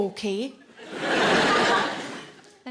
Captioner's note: audience laughing